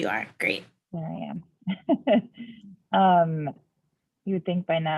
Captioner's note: laughs